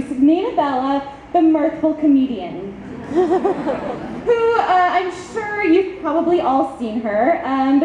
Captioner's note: audience laughs